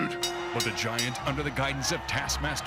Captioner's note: bell ringing